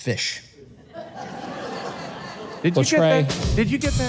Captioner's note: audience laughing